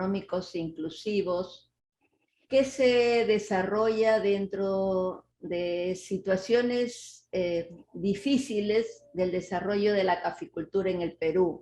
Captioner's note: speaking Spanish